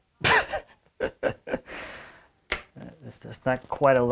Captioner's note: laughs